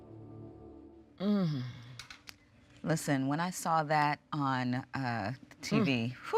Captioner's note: sighs